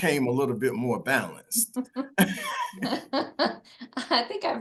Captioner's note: laughter